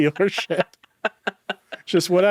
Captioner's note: chuckling